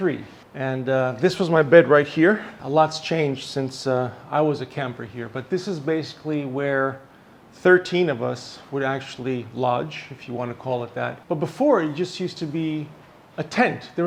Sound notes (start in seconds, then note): none